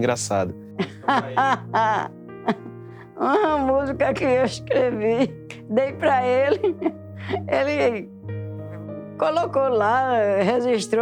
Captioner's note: laughs